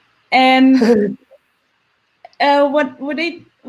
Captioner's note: laughs